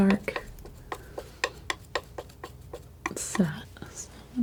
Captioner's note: scratching